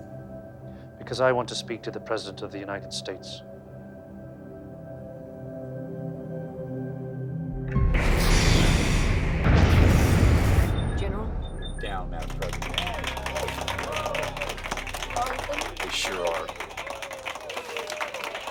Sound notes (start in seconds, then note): 9.3 explosion blasts; 12.1 hands clapping